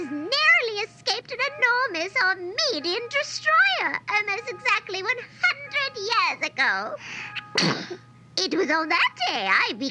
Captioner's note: sneezes